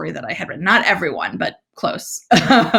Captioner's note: laughs